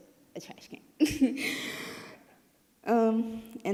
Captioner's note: giggling